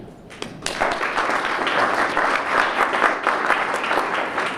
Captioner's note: applause